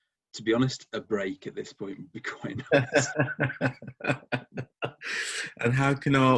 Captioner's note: laughs